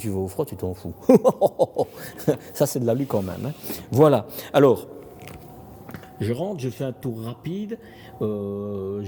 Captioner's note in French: rires